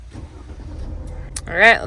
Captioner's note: engine rumbling